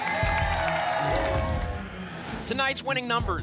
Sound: whoosh

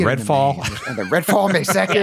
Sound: laughter

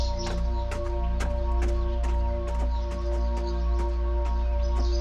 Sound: footsteps

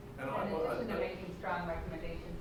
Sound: members talking

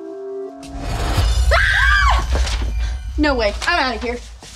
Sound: girls scream

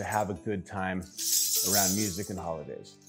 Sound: bells jingling

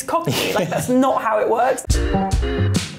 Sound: laughs; upbeat music

